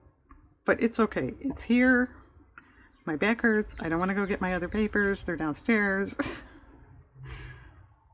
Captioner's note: laughs